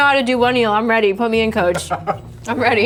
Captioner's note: laughs